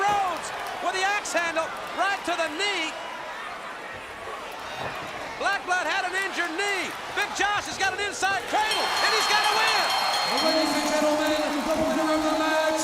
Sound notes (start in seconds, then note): 8.6 bell ringing